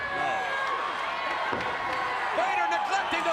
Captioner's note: crowd cheering